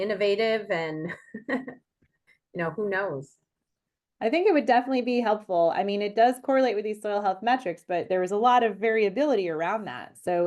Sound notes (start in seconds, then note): 1.1 chuckles